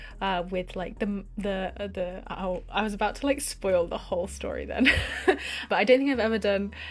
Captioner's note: laughs nervously